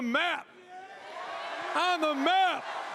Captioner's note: crowd cheers